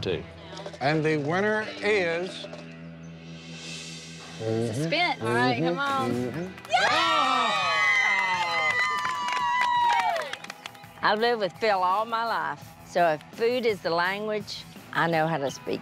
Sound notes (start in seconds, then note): 6.6 cheers and applause